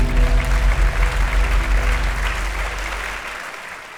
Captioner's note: audience applauding